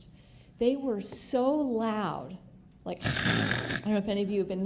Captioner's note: mechanical noise